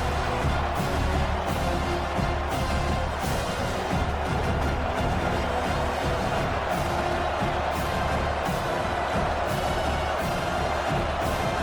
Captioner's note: crowd Noises